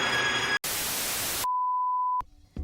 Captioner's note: static